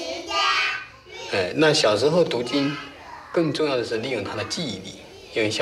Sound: speaking Chinese

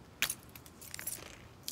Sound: crunch/shatter

